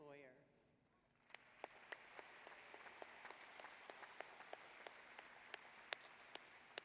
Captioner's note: applause